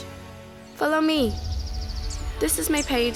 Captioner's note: birds chirping